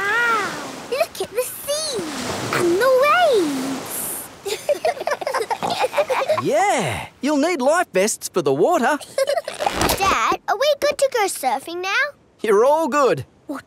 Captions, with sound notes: Wow! Look at the sea and the waves! (GIGGLING) Yeah! You'll need life vests for the water! Dad? Are we good to go surfing now? You're all good!